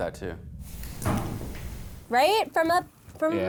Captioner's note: knocking